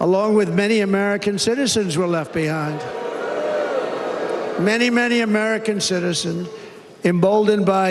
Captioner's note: cheers and applause